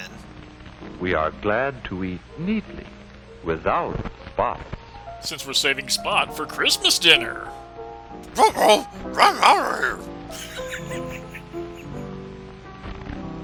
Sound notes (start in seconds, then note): 8.6 Scooby-Doo voice; 10.3 laughing